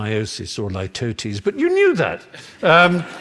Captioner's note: laughter